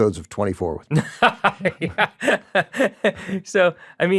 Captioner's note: laughing